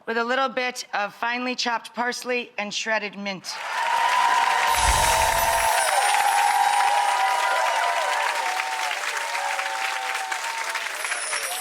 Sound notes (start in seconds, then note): 3.5 cheering and clapping